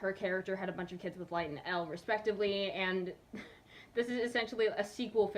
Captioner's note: nervous chuckle